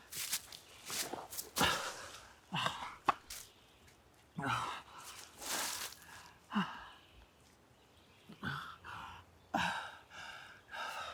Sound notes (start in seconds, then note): 1.5 Arawn breathing heavily